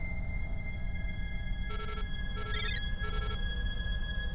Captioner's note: alarm sounding